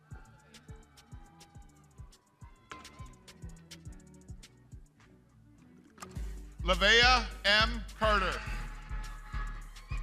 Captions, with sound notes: - Lavayah M. Carter. (crowd cheering)